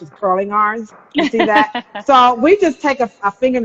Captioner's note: laughing